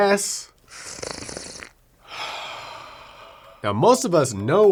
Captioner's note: loud slurps